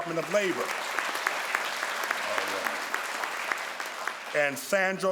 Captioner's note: crowd applauds